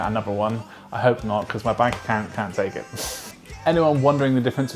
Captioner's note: scoffs